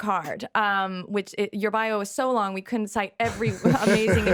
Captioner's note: laughing